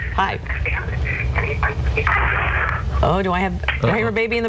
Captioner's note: static interference